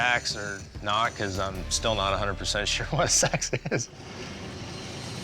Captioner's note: laugh